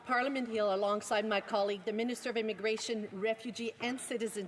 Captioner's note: speaking French